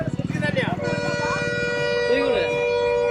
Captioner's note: truck horn sound